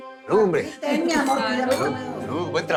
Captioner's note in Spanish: Tintineo de copas